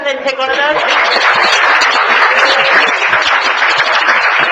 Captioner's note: applause